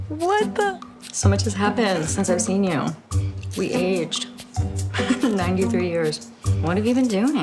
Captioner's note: chuckles